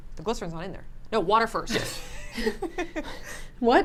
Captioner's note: laughs